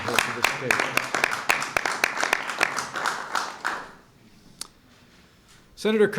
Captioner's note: applause